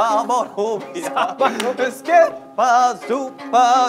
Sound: laughter

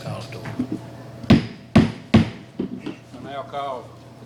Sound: mallet tapping

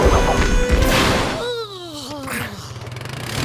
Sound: yawning

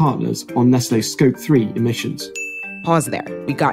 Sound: bell dings

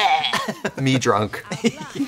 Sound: laughing

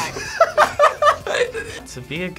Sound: both laugh

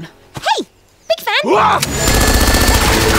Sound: Mercanary shouts in surprise

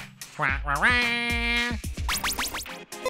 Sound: commanding squawk

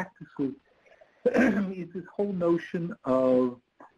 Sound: clears throat

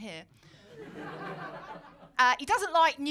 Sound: laughter

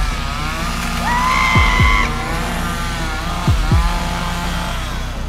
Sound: saw whirring; man screaming

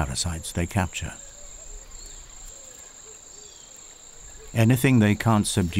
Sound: birds chirping

